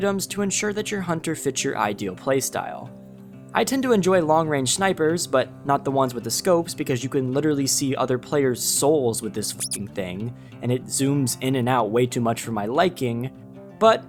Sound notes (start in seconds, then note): 9.6 beep